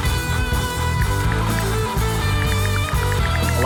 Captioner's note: ticking